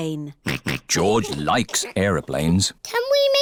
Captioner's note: snorts